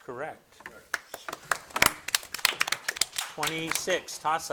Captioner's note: audience applauding